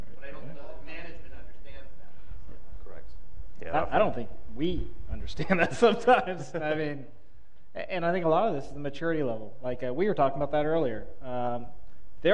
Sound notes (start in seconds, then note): 5.4 laughs